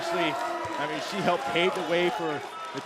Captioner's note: crowd cheering